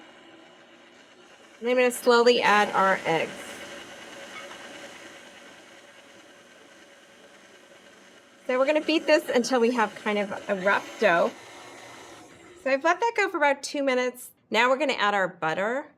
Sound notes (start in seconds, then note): 2.5 whirring